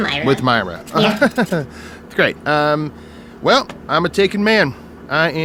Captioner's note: laughs